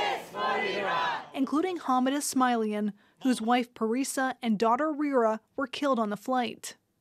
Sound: chanting

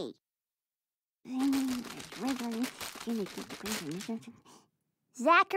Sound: mumbling

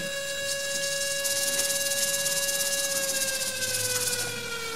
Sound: alarms ring

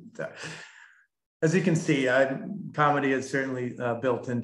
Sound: chuckles

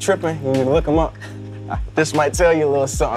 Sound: Jaylen laughs

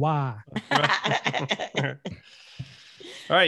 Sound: laughing

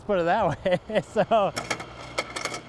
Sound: laughter

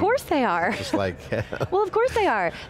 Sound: laughing

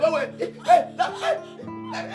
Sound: scream

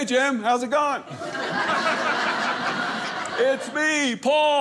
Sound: audience laughing

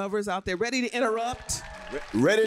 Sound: applause

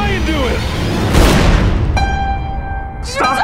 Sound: gunshot

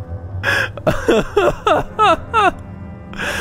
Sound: laughing

